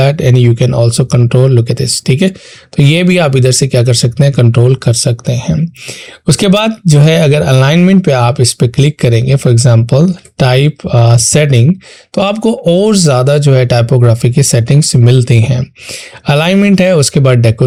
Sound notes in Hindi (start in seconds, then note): 5.4 गला साफ़ करने की आवाज़